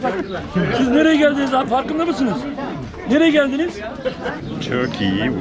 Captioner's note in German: stolz/türkisch sprechend